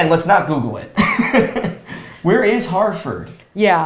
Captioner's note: laughs